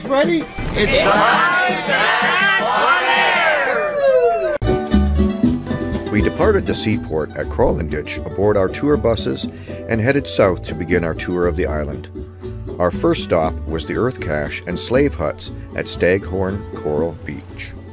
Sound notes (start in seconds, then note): 4.1 cheers